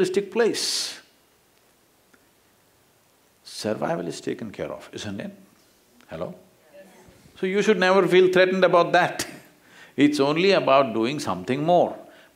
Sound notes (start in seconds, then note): 9.4 laughs